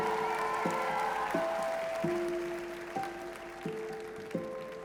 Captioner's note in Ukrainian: оплески